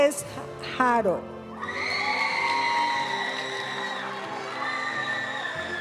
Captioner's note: audience cheering and applauding; graduation music